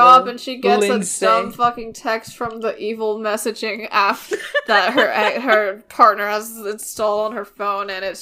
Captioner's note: laughing